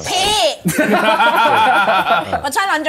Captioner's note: laughs